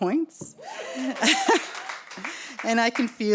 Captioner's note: audience cheers